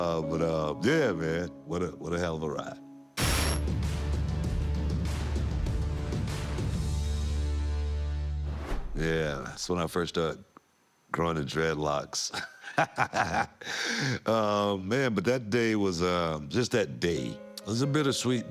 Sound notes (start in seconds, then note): 12.3 laugh